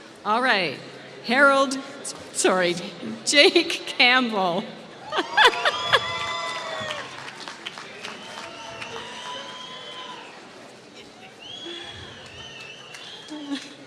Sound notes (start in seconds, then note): 5.1 laughs; 5.4 applause